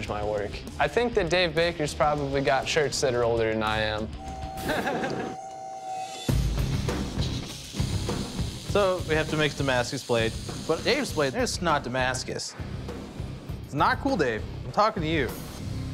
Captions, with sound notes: I think that Dave Baker's probably got shirts that are older than I am. [laughs] [rock music] - So we have to make a Damascus blade. But Dave's blade, it's not Damascus. It's not cool, Dave. I'm talking to you.